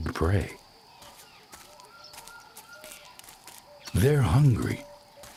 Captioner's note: birds chirping